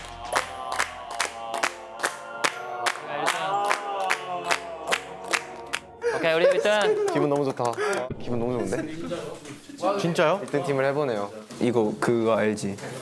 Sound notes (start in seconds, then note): 2.2 clap; 2.2 regular clapping sounds remind him of something